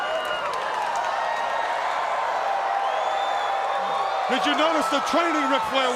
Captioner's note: crowd cheering